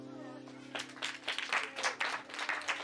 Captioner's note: tepuk tangan